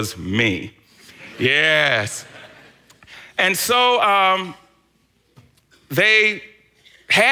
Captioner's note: congregation laughs